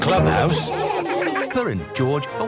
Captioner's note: all laughing